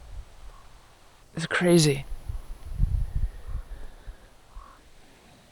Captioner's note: animals calling